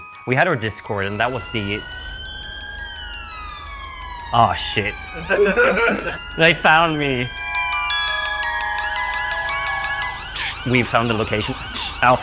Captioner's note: police siren